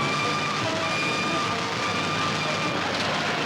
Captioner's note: train whistle